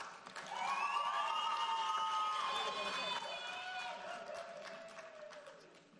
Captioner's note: audience cheering and applauding